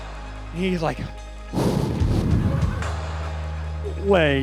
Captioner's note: deep breathe